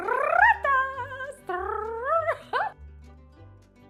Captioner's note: trills tongue and laughs; light cheerful music